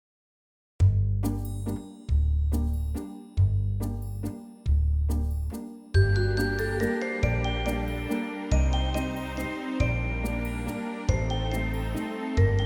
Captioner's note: dragging sound